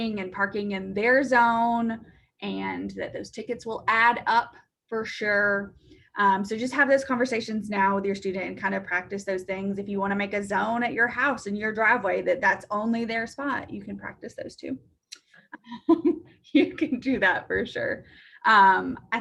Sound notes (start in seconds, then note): 15.5 chuckles